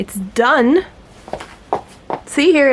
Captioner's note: footsteps